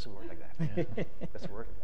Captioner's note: panelist laughs